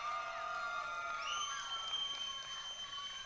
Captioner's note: applause